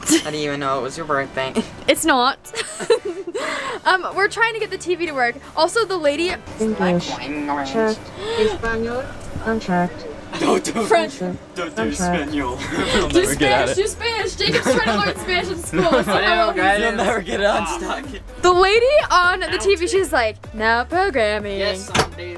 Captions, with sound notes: I didn't even know it was your birthday. - It's not. We're trying to get the TV to work. Also, the lady (robotic speaking) - Don't do Espanol. - Do Spanish do Spanish. Jacob's trying to learn Spanish in school. The lady on the TV, she's like now programming,